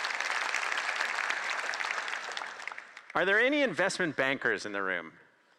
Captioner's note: applause